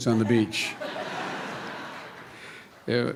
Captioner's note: laughter